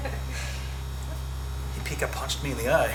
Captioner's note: laughing